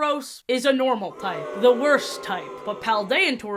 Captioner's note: crowd booing sfx